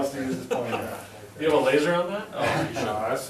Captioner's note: laughs